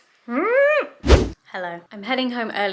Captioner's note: whooshing sound